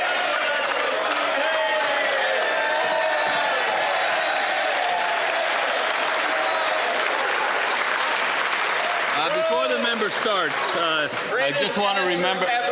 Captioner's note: some Applause